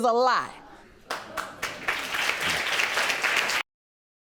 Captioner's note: audience applauds